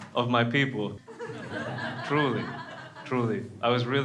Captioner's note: crowd laughs